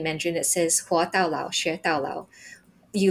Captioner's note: speaking in foreign language